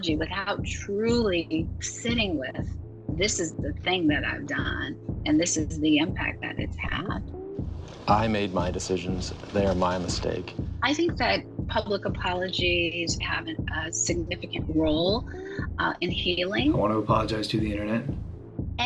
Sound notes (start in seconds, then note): 7.7 soundbite of archived recording; 16.5 soundbite of archived recording